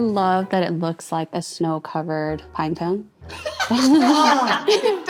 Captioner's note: all laughing